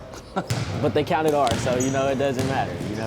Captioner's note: laughing